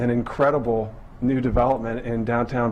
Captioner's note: none